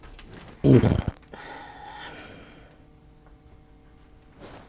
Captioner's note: low rumbling